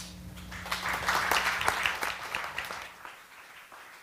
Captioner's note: applause